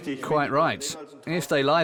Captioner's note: in German